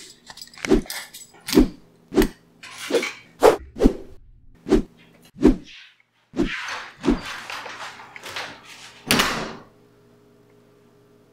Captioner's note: woosh, woosh, woosh